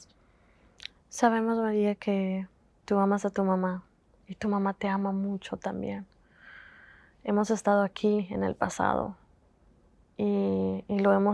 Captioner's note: Spanish